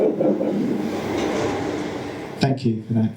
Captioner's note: audience laughter